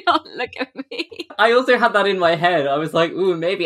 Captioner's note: laughing